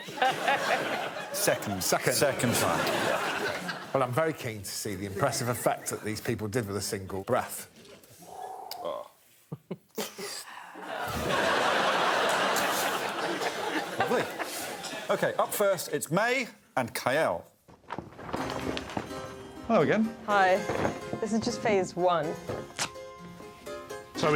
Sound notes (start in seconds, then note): 9.5 blowing gently